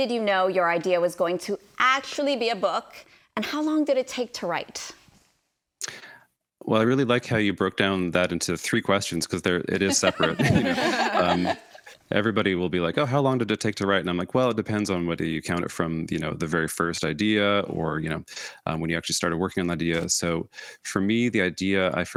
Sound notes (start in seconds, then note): 9.8 hosts laugh